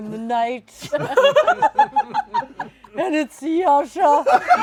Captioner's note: laughter